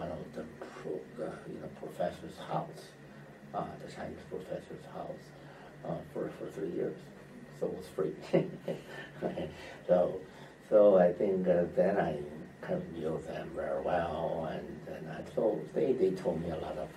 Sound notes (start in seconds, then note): 8.2 laughs